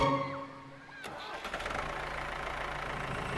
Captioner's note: motor whirring